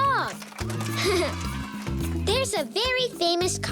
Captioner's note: cheering